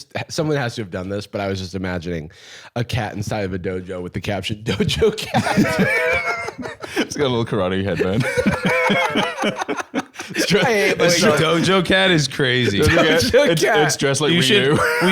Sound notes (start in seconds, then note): 4.8 both laughing